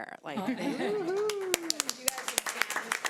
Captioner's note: audience applauds